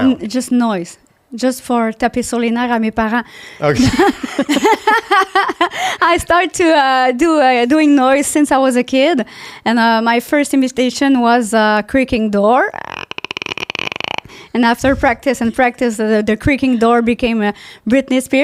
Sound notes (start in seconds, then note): 1.4 in french; 3.6 laughing; 12.8 creaking door